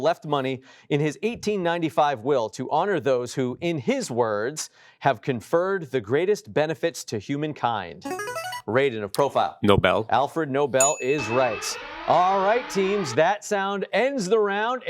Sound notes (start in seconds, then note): 10.8 alarm blaring